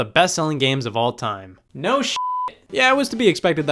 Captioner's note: beep